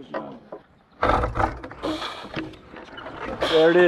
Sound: bridge creaks

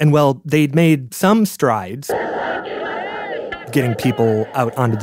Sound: crowd yelling

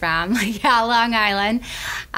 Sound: laughs

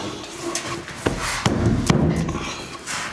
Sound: banging

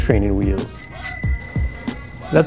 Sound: bell sound

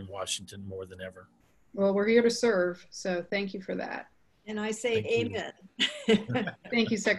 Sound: laughing

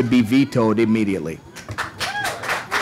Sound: cheers, applause

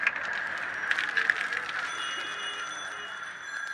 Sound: drink bubbling and fizzing up; shot poured

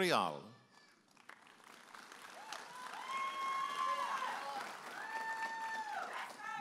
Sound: audience applauding and cheering

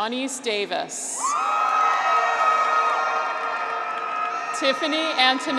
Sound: graduates cheer; horn honks

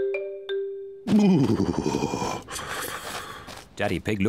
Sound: shivers

